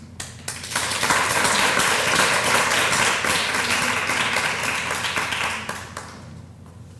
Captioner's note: applause